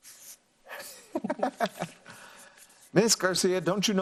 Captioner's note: laughs